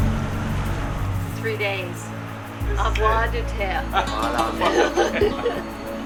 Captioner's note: in french